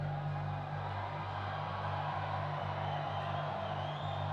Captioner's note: crowd cheering